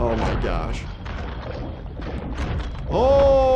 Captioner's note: bones crunching